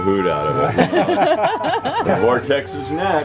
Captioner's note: laughter